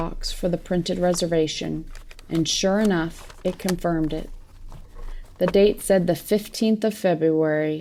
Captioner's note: rustling ends